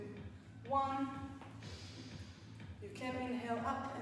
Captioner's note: inhales